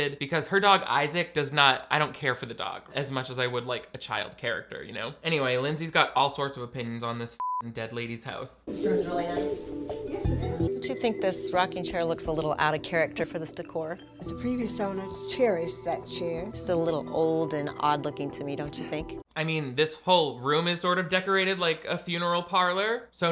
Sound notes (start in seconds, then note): 7.4 beep